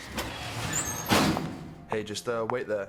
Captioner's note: doors closing